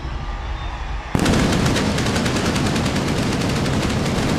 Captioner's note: pyro bangs